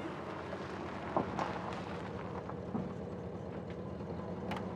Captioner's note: engine rumbling